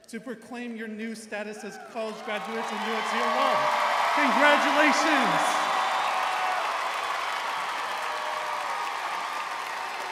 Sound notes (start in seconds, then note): 6.2 audience cheering